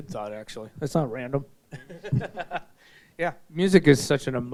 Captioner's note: laughing